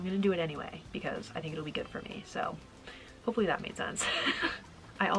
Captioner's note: laughing